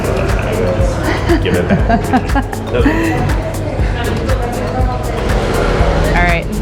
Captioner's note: laughter